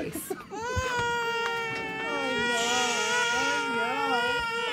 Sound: both children crying

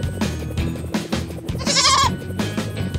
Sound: bleating

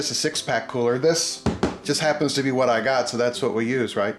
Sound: knocking

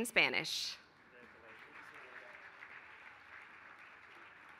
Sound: applause

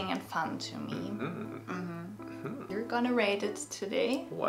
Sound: exclaiming

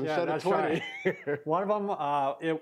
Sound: laughs

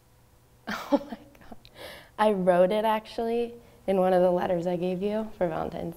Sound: laughing

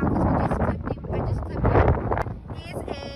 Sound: wind drowns out speaker

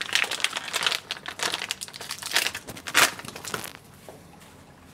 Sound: plastic rustling

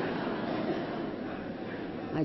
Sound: laughter

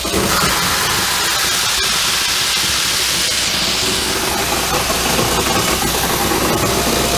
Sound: machine running

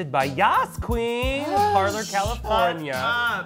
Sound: gasps

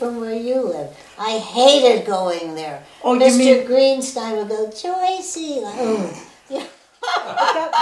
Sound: laughter

